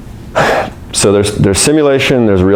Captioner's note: sighs